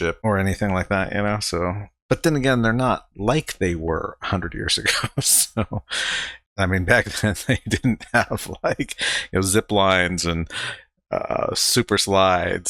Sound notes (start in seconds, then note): 4.9 laughing